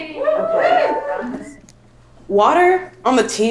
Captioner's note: cheering